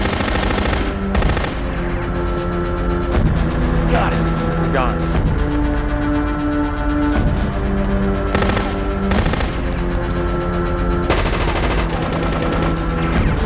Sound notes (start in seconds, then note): 0.0 machine gun firing; 2.5 ominous music; 6.4 ominous music; 8.3 machine gun firing